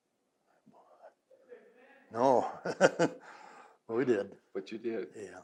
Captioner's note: laughs